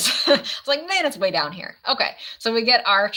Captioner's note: laughs